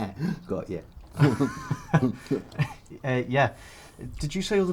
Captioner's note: Sean laughs; he laughs